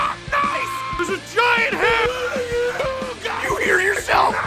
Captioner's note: screaming; Harry potter screaming